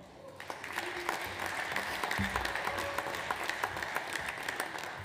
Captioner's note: audience applauds